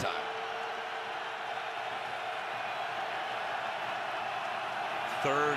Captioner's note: crowd clamoring